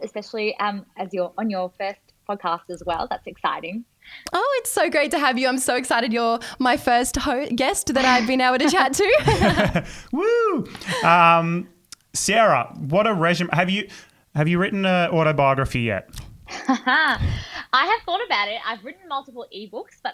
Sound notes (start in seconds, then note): 9.0 everyone laughing; 16.5 laughing